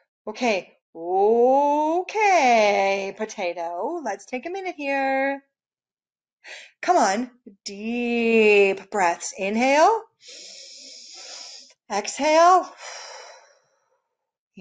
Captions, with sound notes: Okay, okay, Potato. Let's take a minute here. Come on, deep breaths. Inhale. (breaths in) Exhale. (breaths out)